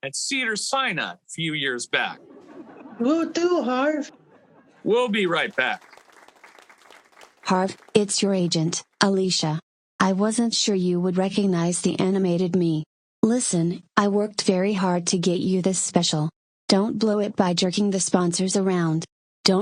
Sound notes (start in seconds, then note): 2.0 audience laughing; 4.7 audience clapping